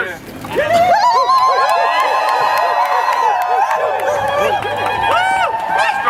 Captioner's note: cheering